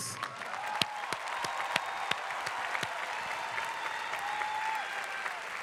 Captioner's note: clapping and cheering